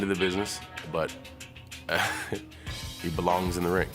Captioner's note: laugh